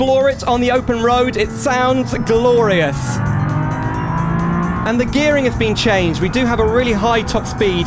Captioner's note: engine Noise